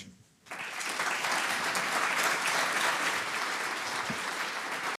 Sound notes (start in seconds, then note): 0.4 audience applauds